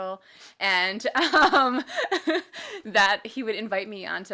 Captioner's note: laughs